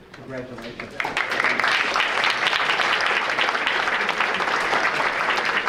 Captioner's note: audience applauding